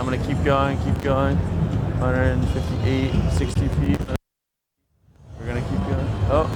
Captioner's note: crackles